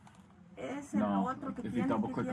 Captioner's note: speaking Spanish